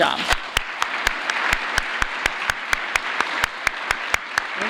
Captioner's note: applause